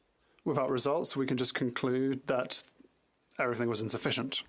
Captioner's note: speaking French